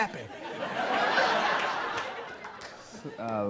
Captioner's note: laughter